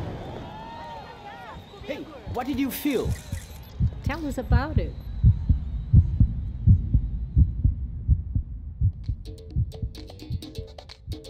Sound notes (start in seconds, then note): 5.5 sound of beating heart